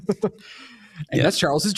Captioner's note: laughing